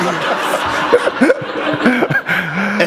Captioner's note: laughter